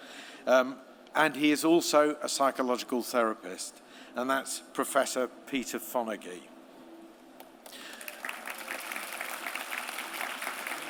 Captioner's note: applause